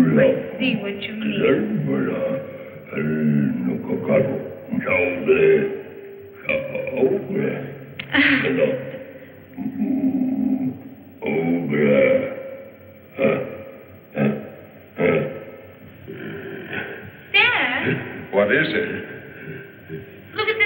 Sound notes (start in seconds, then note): 4.7 gibberish grunting